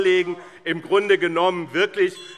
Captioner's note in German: Zurufe AfD - Glockenzeichen